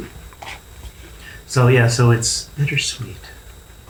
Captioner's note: wistfully